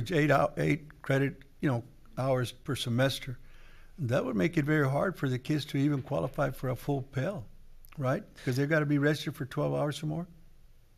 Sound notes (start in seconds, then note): none